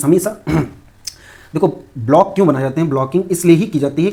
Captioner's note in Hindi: गला साफ़ करने की आवाज़